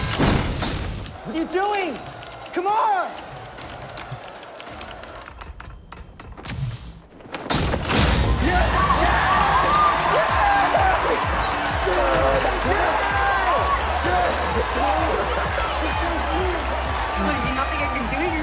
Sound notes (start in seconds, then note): 7.7 electricity buzzing; 8.4 all screaming; 8.6 crowd cheering